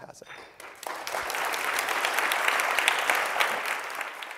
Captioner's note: applause